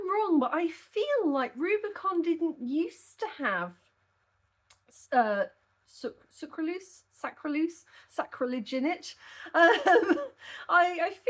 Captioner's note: laughing